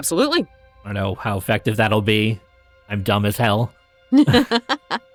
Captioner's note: chuckles